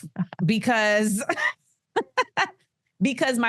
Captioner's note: Amanda laughs